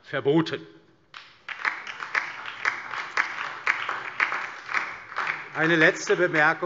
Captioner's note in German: Beifall DIE LINKE, BÜNDNIS 90/DIE GRÜNEN und SPD